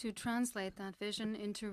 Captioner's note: speaking French